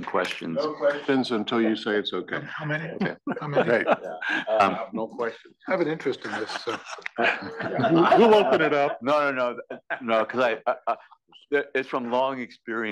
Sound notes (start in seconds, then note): 2.9 laugh